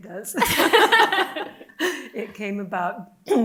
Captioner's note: laughing